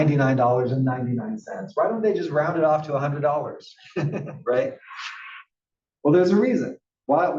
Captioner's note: laugh